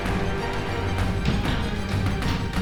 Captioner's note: door thudding; tense orchestral music